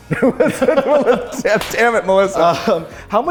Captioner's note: laughs